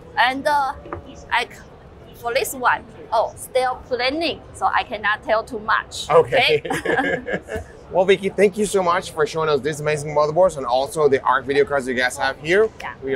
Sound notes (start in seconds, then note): 6.4 both chuckling